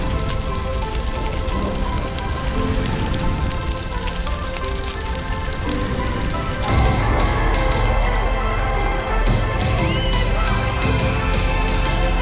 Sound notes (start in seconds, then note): 7.8 cheers and yelling